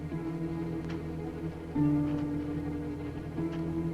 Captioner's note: none